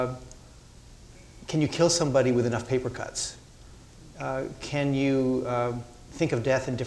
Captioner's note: none